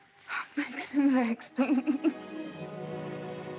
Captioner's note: sobbing